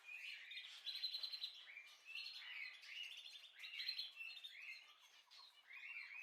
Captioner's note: bird